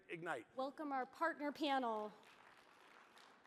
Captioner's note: applause